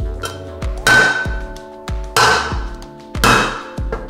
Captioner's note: metallic clanking